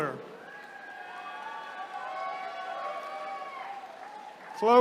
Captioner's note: attendees cheering